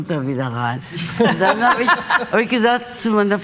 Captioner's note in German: Lachen